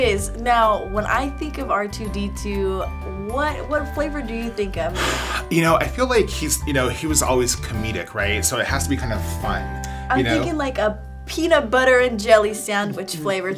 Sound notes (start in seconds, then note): 4.9 sighing